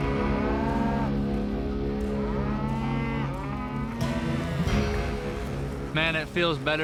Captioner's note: cows mooing